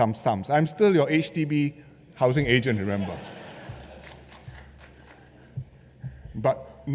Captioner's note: laughter